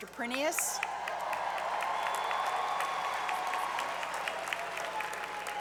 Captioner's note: applause